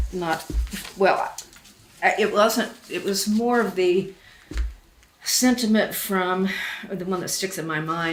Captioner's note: sighs